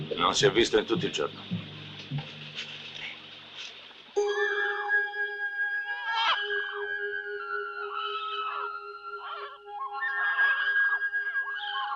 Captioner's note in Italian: urlo